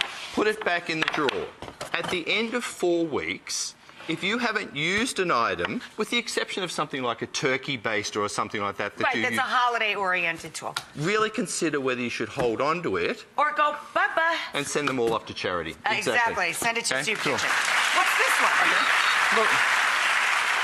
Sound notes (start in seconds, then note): 17.0 audience applauds